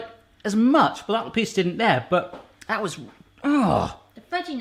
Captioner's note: groans